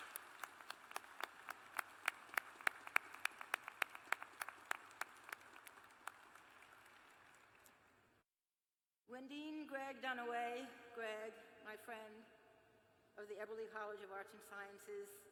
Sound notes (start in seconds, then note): 3.3 applause